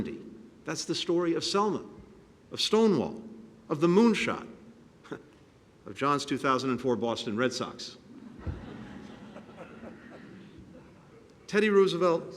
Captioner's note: laughter